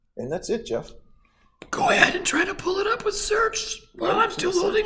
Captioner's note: holding breath